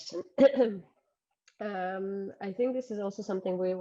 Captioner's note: clears throat